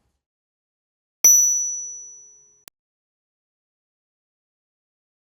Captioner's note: bell chiming